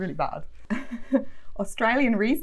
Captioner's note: chuckles